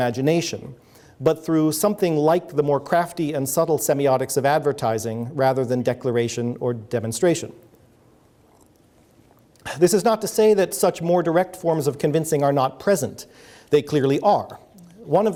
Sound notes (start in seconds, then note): 9.1 sips water